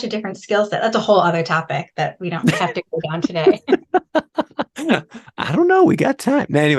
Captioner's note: laughing